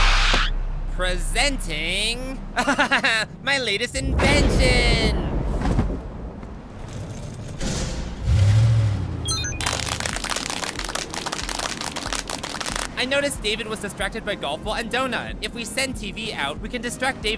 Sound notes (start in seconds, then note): 9.6 clapping